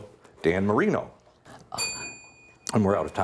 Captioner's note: bell ringing